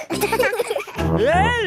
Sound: laughing

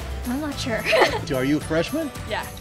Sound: laughs

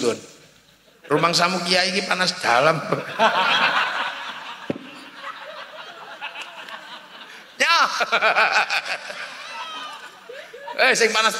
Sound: laughs

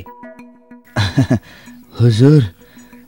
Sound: chuckles

